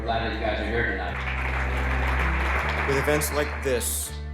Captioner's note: applause